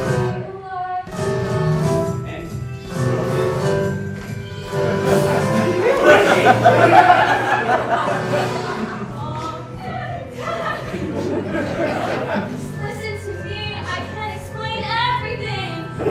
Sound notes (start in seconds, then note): 9.0 laughing